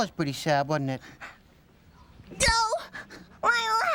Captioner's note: yells